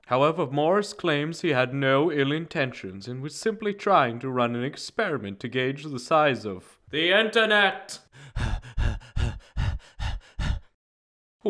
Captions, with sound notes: However Morris claims he had no ill intentions and was simply trying to run an experiment to gauge the size of...the Internet! *Loud breathing*